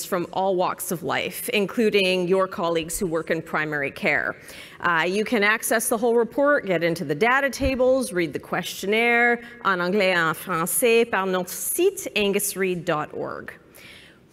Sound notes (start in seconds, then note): 10.5 speaking french